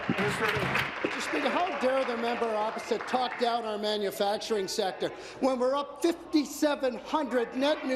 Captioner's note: applause